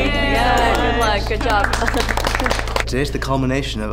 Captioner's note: applause